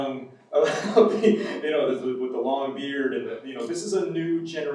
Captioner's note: laughs